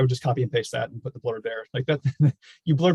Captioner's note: chuckles